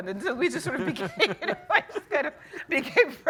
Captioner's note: laughing